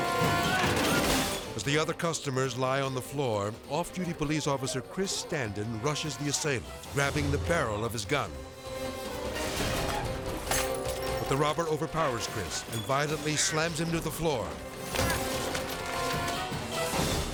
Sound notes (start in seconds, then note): 0.0 men groaning; 0.0 men crashing; 0.3 suspenseful music; 8.5 edgy dramatic music; 10.5 items crashing; 14.7 suspenseful music; 14.9 men slamming